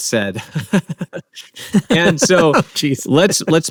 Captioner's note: laughing